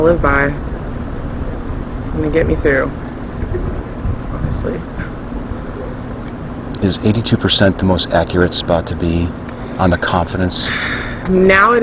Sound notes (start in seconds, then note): 3.6 quietly